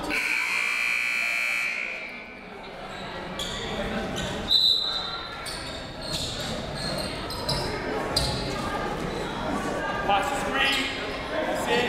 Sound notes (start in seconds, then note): 0.0 buzzer; 4.4 whistle